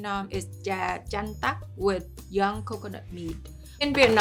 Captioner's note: speaking in foreign language